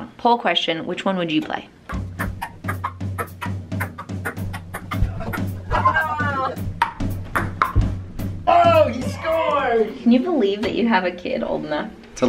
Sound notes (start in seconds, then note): 2.3 ping pong ball bouncing; 5.8 cheering